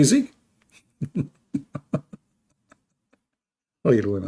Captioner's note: Ketawa